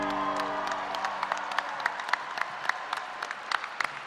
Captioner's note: applause